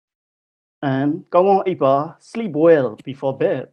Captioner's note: speaking in foreign language